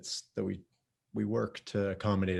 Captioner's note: none